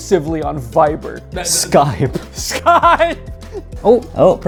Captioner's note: laughs